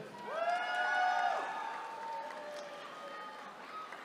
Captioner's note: attendees cheering